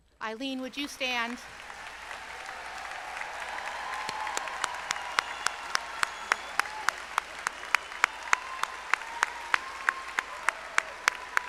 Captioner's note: applause